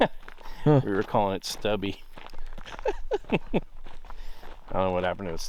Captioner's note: laughs; laughing